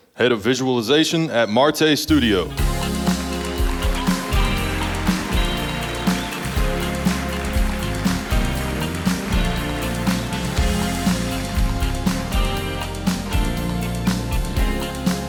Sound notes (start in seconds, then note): 3.3 upbeat music; 6.4 audience applauding